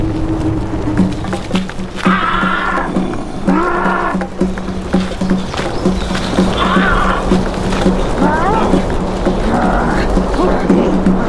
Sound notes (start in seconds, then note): 1.4 upbeat drumbeat music; 2.2 Og and Luna growling; 5.6 upbeat drumbeat music continues; 8.5 both grunting